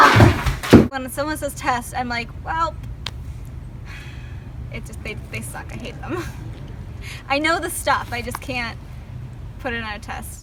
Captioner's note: sigh